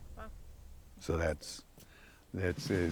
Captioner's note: stammers